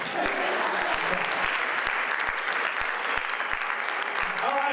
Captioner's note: audience applauds